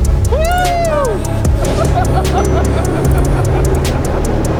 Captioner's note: laughter